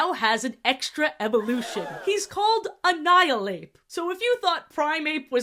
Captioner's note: crowd gasp sfx